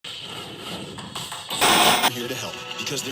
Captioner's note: static hisses; upbeat music